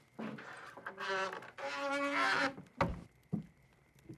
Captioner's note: door creaking